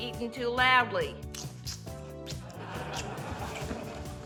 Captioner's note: slurps